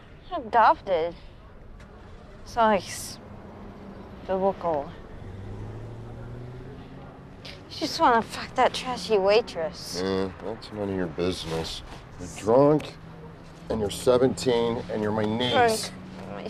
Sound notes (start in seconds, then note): none